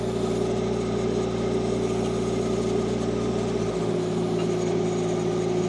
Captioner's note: machinery continues rumbling